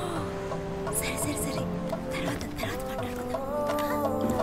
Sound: whispers

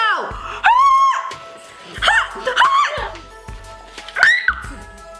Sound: both scream and pant

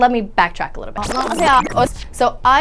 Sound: woman talking backwards

